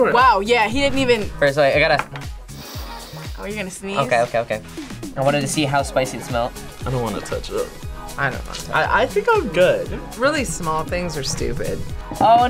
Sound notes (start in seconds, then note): 2.5 sniffs